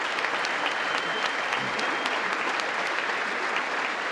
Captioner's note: congress applauding